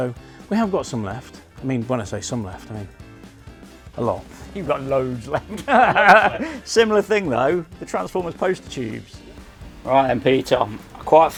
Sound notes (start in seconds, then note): 5.4 chuckles